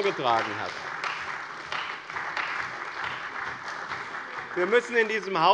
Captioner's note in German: Beifall bei dem BÜNDNIS 90/DIE GRÜNEN und der CDU